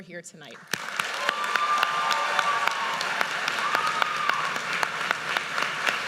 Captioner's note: audience cheers and applauds